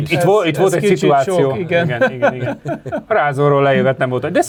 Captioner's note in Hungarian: nevetés